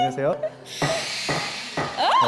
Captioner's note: sound of the gavel